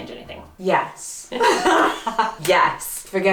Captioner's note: laughs